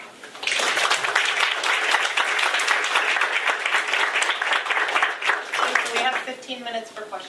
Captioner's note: applause